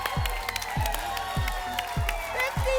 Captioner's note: applause and cheering